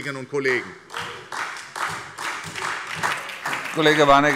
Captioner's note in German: Beifall SPD und DIE LINKE - Heiterkeit Freie Demokraten